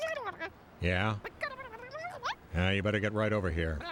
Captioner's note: high voice babbling; babbling